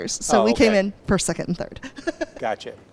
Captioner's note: laughing